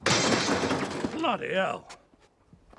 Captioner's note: microwave thuds